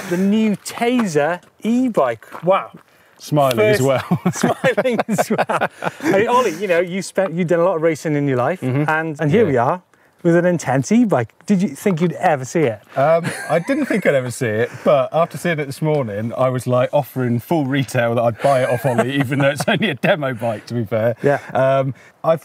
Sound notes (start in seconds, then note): 3.7 laughs; 13.1 laughs